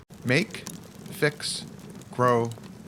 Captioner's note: fire crackling